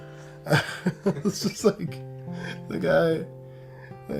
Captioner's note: laughs